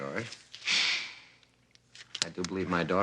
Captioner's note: sighing